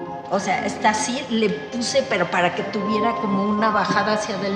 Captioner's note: speaks Spanish